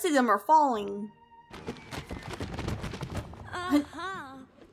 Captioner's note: books Thudding to the Ground; laugh